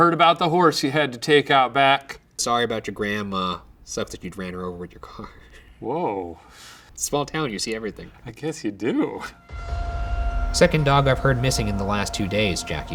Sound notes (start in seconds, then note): 5.5 laughs; 9.4 dramatic whooshing